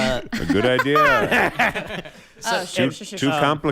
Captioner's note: various cast members laugh